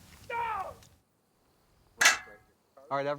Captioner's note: metal clanging